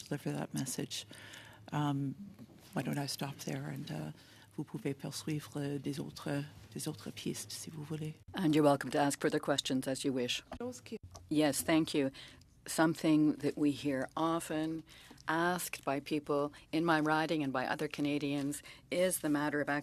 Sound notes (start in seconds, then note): 10.9 speaking French